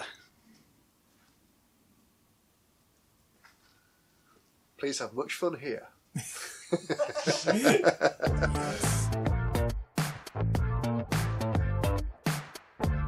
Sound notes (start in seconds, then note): 6.1 chuckles; 12.2 snare